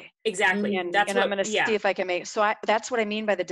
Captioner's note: murmurs